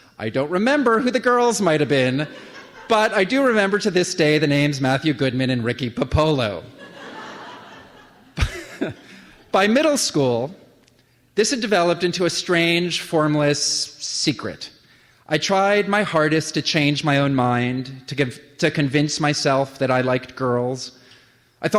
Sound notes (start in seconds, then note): 6.7 laughter